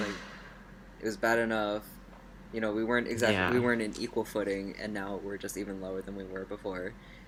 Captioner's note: sarcasm